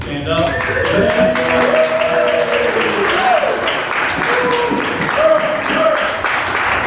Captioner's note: applause